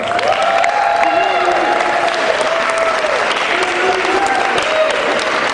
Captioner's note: cheering